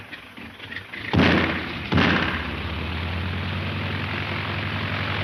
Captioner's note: airplane engine revving; gun fires; airplane engine roaring